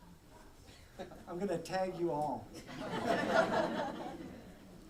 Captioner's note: laughter